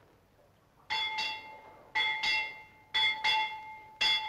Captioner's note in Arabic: رنين الجرس